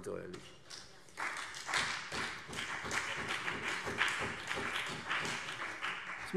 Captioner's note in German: Beifall CDU und BÜNDNIS 90/DIE GRÜNEN